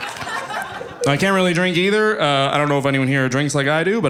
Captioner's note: audience laughing